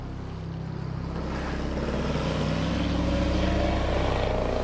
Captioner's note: motor revving